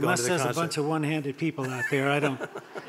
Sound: murmurs

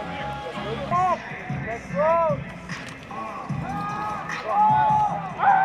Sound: chatter

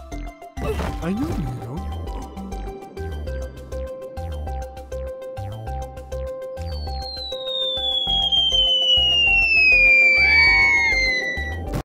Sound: nyoom

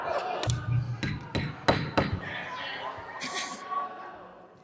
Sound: audience and board members laughing; gavel banging

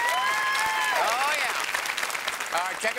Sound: cheers and applause

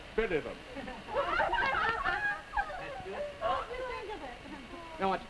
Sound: women giggle

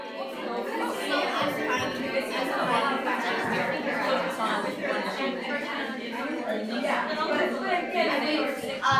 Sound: students talking

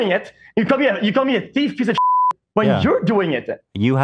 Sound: beeps

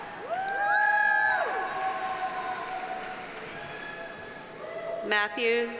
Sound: audience cheering; audience applauding

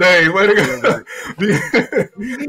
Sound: laughs

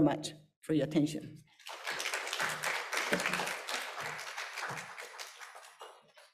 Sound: applause

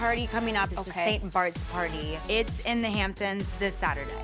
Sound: none

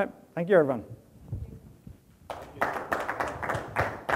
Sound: audience applauds

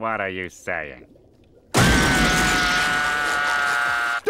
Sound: screaming

